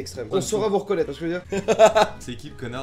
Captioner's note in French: Rires